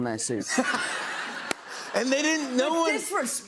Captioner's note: laughter